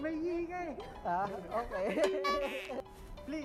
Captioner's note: laughs